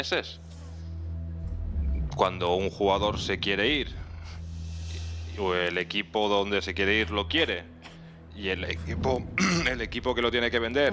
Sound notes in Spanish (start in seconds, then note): 9.4 carraspeo